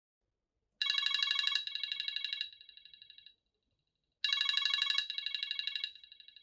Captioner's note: phone ringing loudly and vibrating